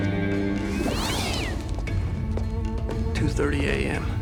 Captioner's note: cat screeches